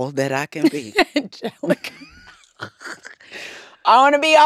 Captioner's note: laughter